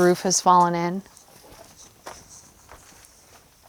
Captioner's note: footsteps shuffle